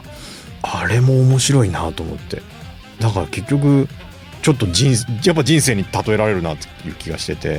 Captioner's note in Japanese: 鼻息